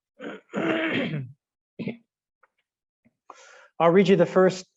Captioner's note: clearing throat